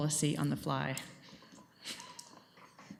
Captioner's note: chuckles